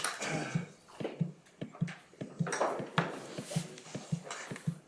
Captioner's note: object thumping